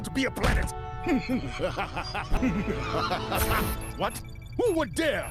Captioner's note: insane laughter